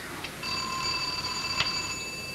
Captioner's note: doorbell rings